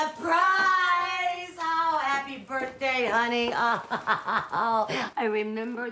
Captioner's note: laughing